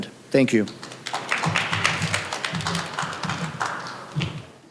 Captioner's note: applause